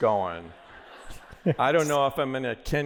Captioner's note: laughter